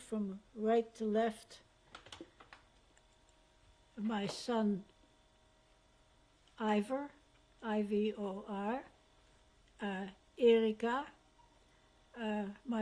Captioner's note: pauses for 3 seconds